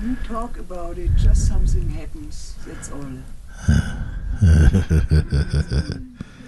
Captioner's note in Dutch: gelach